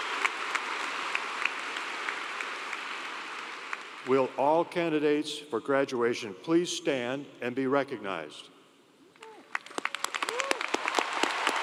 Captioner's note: cheers and Applause